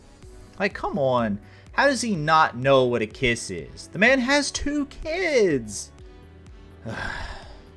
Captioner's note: sigh